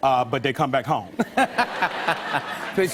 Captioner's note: laughter